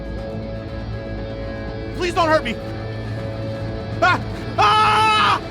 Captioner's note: screams